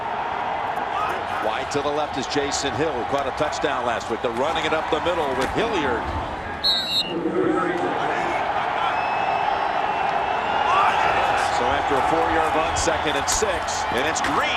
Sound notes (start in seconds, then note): 6.6 whistle blows